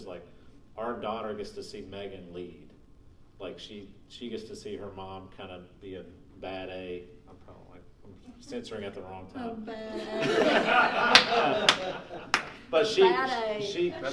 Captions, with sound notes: like our daughter gets to see Megan lead. Like she gets to see her mom kind of be a bad-a censoring at the wrong time. (laughing) - Oh, bad-a (clapping) bad-a